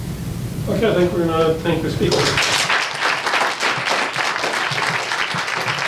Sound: audience applauds

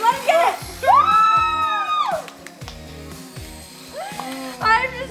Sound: applauding

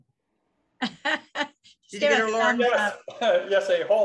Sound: laughs

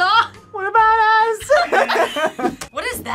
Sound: both laugh; laughs

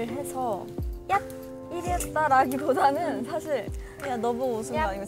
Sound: pffft

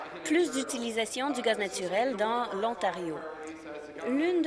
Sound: applause

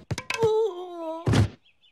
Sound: groans of pain

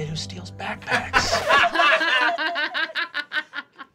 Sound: group laughing

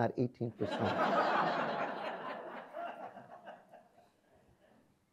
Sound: audience laughs

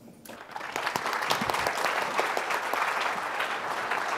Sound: applause

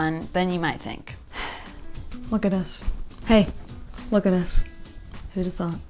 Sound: sighs

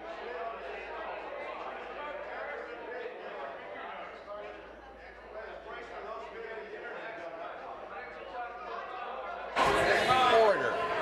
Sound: conversation din

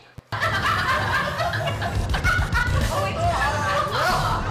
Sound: laughter offstage

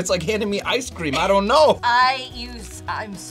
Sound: laughs

